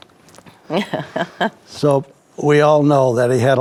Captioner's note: chuckles